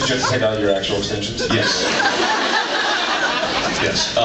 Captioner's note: laughs